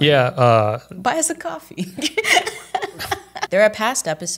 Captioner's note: laughs